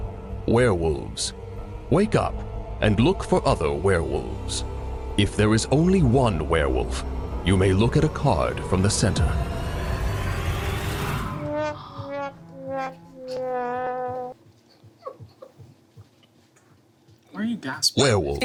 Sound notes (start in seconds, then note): 11.3 sad trombone music; 11.7 laughs